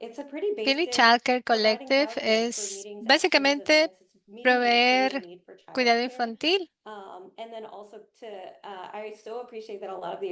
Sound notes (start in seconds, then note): 6.8 hablando inglés